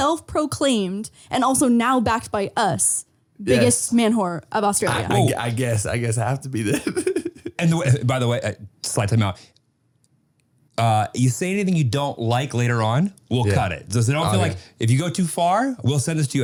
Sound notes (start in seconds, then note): 7.4 laughing